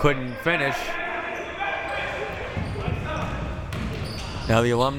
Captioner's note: players yelling